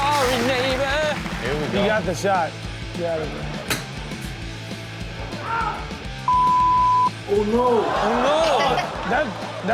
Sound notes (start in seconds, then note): 3.5 golf club clacks